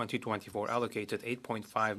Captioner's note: speaking French